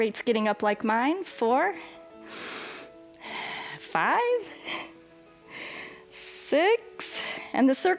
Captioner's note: inhales and exhales